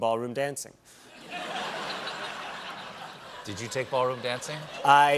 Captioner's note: laughter